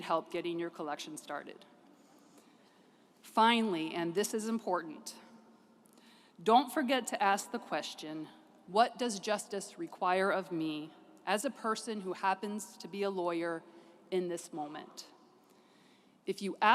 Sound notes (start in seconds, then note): none